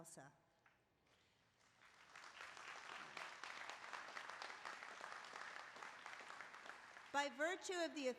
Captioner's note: applause